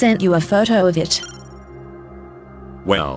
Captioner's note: beep